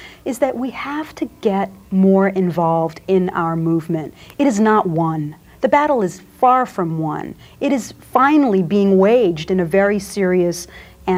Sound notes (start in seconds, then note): none